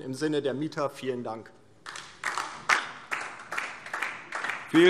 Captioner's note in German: Beifall DIE LINKE